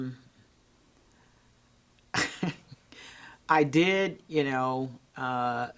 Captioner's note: chuckles